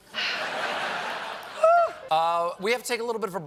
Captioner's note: laughter